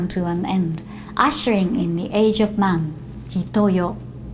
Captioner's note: speaking Japanese